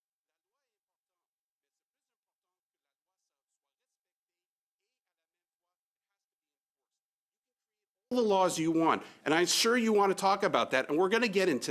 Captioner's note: speaking French